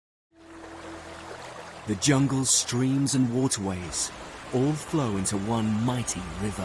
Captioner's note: light music; water splashing